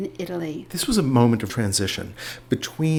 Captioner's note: voiceover